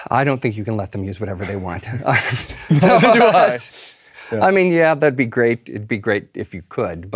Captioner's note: laugh